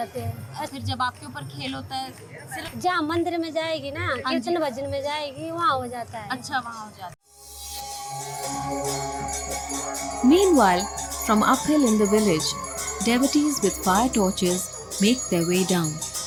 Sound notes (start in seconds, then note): 7.3 shouting; 7.7 bells jingling